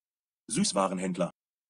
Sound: fast Pronunciation

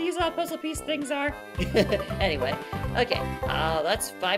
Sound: laughing

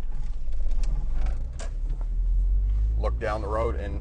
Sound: car engine roaring

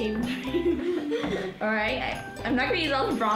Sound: laughing

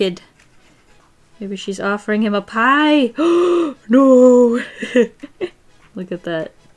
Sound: gasps

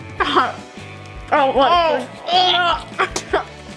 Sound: girls gag

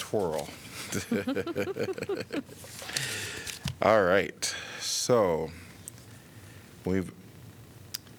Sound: laughter

